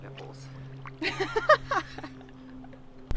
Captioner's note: laughs